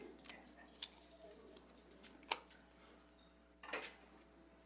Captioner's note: group chattering faintly